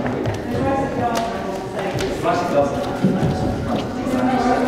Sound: overlapping chattering

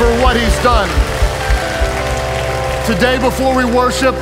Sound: audience clapping

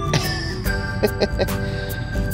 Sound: laughs

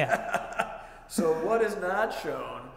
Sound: laughing

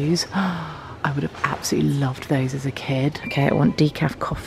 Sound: gasps

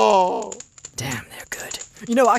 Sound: whispering

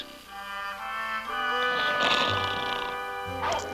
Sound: snoring

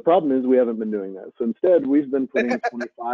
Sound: laughing

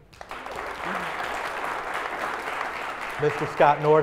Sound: applause

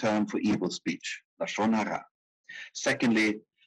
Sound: speaking in foreign language

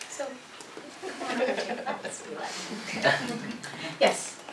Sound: laugh

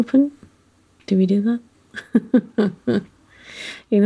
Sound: laughs

